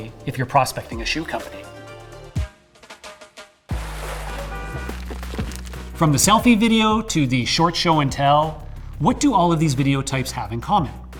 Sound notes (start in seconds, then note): 2.0 upbeat music; 4.0 car horn beeping